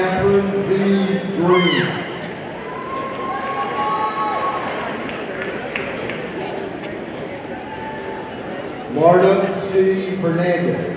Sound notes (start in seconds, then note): 2.6 audience cheering